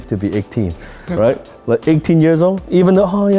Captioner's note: laughs